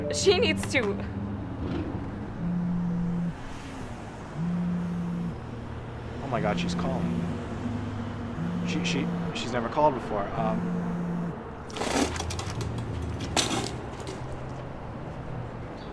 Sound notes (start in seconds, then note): 2.5 phone buzzes